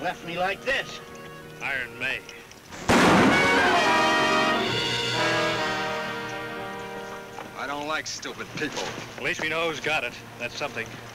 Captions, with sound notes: Left me like this. - Iron Mae. (gun bangs) (dramatic music) - I don't like stupid people. - At least we know who's got it, that's something.